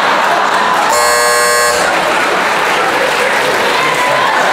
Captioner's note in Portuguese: campainha